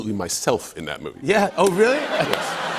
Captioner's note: laughter